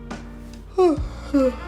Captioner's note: yawning